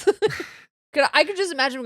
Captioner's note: laughing